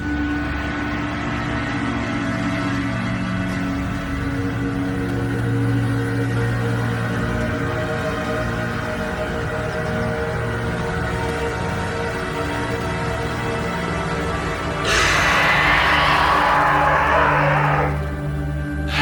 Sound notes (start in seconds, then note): 0.1 tense foreboding music; 14.8 snake growls